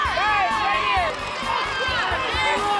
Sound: crowd shouting

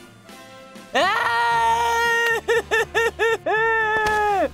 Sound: crying

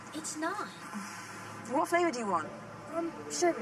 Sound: sighs

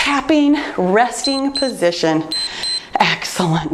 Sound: timer beeps

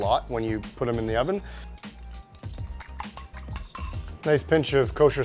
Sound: stirring

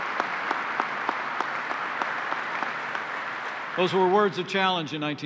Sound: applause

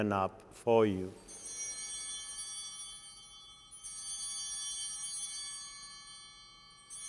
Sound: chimes ringing

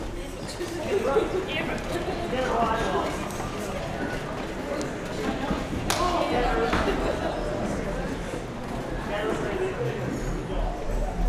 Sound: general chatter

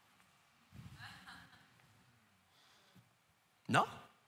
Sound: congregation laughing

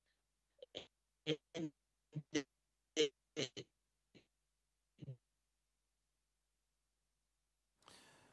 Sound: audio lost

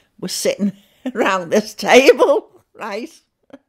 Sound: chuckling

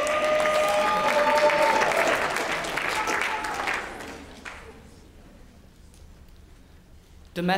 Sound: applause

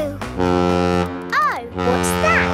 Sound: horn bellowing

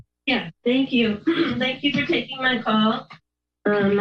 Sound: clears throat

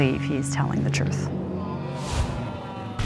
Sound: audience groans

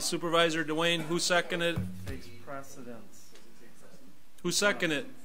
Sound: overlapping chattering

